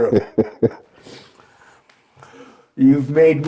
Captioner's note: laughing